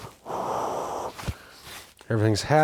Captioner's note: blows hands